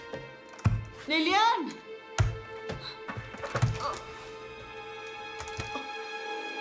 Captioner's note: thudding